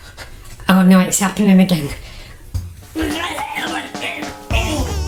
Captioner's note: gurgles